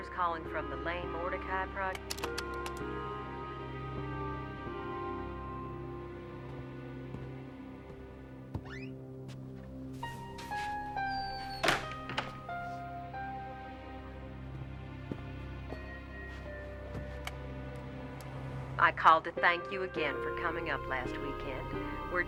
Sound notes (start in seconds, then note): 3.2 soft mysterious music continues; 11.8 doors closing; 15.5 soft mysterious music continues